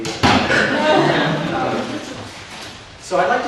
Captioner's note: audience laughs